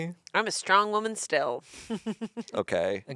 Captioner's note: laughs